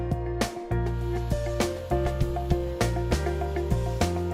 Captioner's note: saw hums